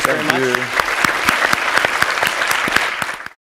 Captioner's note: applause